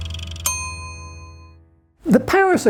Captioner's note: ding